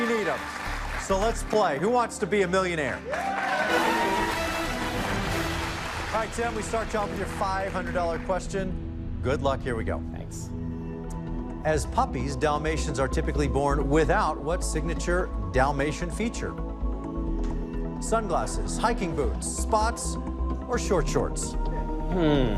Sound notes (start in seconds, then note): 2.9 cheers and applause; 3.2 dramatic musical flourish